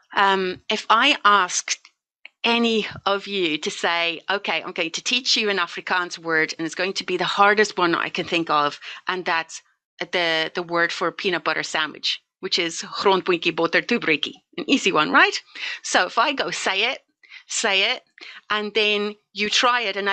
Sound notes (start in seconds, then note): 13.6 speaking in foreign language